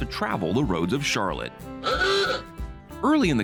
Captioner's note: horn sound effect